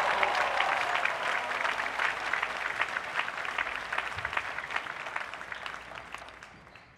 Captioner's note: applause